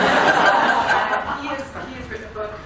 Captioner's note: laughter